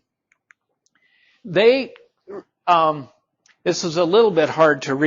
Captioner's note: mouse clicking